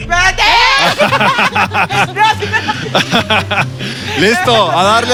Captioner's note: evil photographer laugh